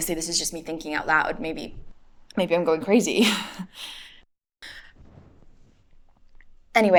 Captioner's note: chuckles nervously